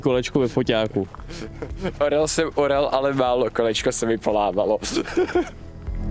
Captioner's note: laughs